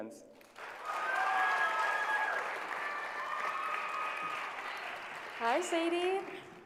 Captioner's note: applause